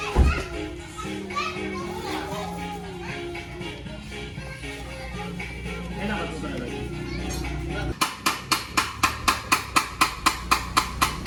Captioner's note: laughs